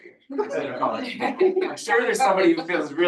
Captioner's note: audience laughing